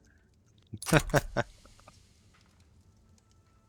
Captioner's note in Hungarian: nevetés